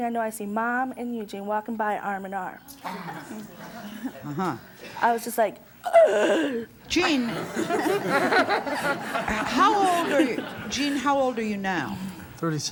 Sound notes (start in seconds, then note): 5.9 gasps; 7.0 laughing